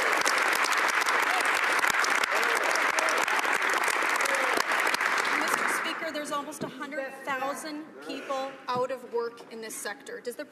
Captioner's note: some Applause